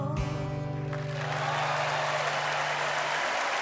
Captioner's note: cheering and applause